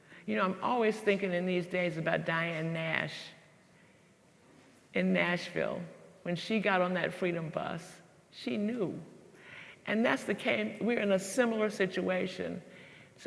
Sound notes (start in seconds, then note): none